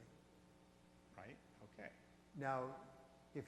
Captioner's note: voiceover